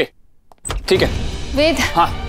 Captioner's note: Door opens